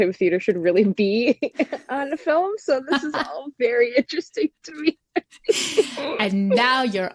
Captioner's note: laughter